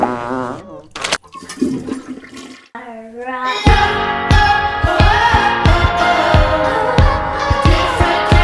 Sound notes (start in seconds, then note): 1.3 toilet flushing; 5.3 upbeat music